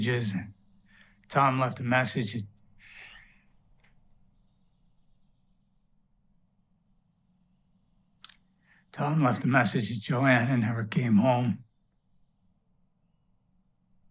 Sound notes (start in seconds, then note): none